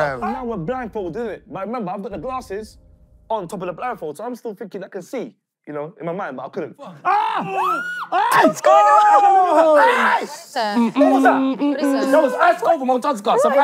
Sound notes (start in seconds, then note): 6.8 screaming; 8.7 yelling